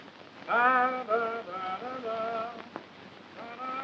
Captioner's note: humming